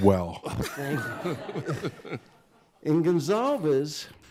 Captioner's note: crowd laughs